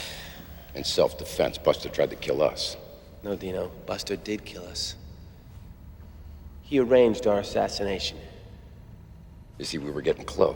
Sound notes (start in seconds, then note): none